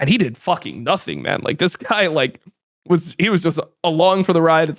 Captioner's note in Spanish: risas